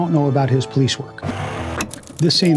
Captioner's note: static